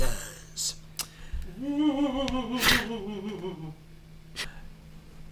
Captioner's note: spooky hamburger-stealing ghost sounds